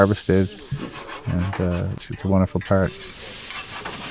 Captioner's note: pan rustling